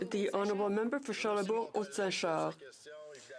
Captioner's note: speaking French